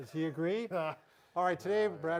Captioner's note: laughs